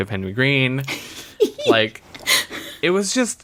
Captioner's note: laughs